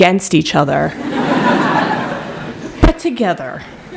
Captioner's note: laughter